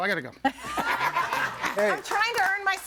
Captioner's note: all laughing